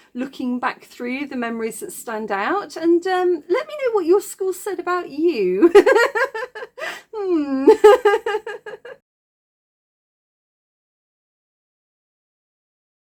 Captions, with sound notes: looking back through, the memories that stand out, and let me know what your school said about you. [laughing] Hmm.